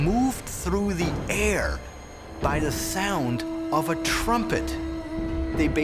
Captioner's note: horn blowing